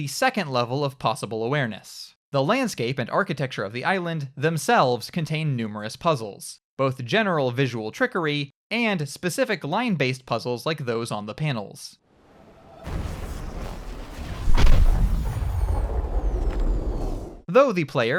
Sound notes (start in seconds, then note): 12.2 electronic boom; 12.2 swooshing noises; 14.5 high-pitched whine; 14.5 small reverberating explosion